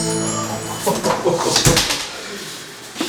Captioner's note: chuckling